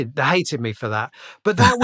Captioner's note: laughter